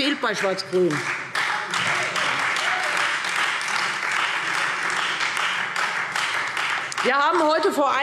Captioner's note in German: Beifall Freie Demokraten